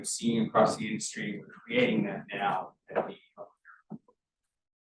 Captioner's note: sound distorted